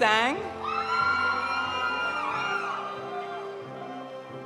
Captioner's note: audience cheering; audience applauding